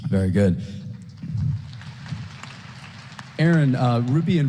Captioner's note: applause